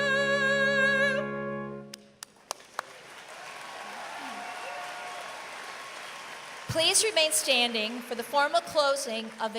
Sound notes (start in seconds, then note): 2.2 applause